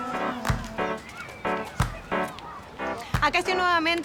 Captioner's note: kids yelling